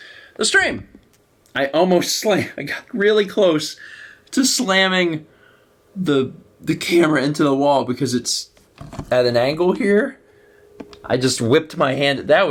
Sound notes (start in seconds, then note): 3.8 wheezes